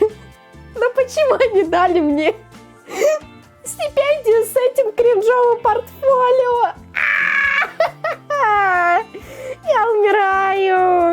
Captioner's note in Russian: смех